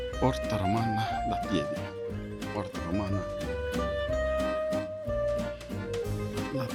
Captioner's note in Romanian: vorbind italiană